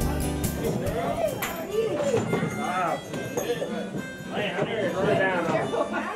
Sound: harmonica music; people chattering

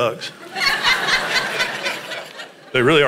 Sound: congregation laughs

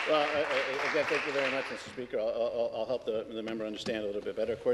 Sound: applause

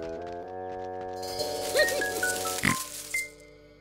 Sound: giggling/ snorting

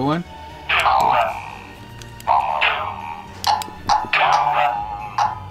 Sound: all monsters vocalizing

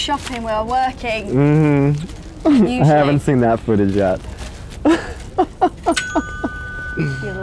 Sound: laughs

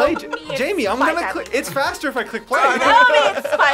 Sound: laughs

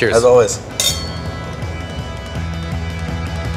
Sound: glasses clink; upbeat music

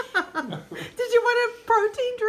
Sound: laughing

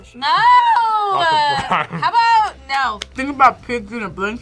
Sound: laughs

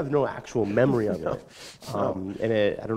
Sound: chuckle

